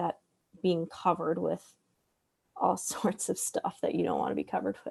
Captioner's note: laughs